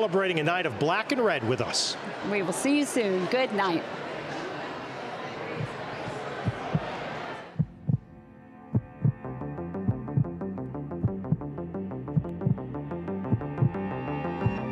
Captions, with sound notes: a night of Black & Red with us. - We will see you soon. Good night. (heart beating) (dramatic music)